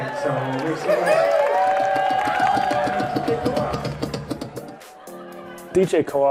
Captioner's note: audience clapping and cheering